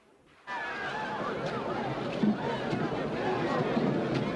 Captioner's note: crowd gasps